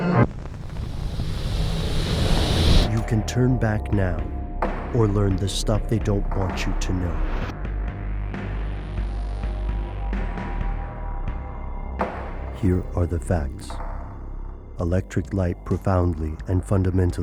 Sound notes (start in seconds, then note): 3.1 voiceover